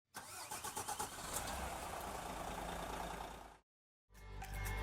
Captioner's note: RV engine starting